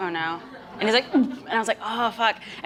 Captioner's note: gags